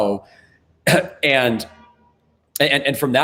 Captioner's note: clears throat; car honks